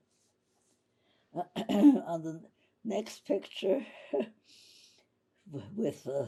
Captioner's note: clears throat; laughing